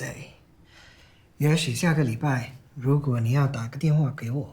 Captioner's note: Calvin speaking in Mandarin